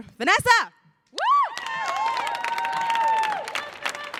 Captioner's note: audience applauding